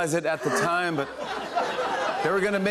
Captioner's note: laughter